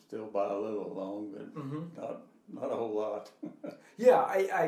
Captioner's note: laughing